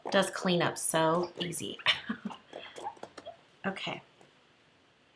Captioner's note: laughs